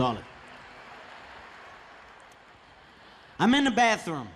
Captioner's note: audience laughing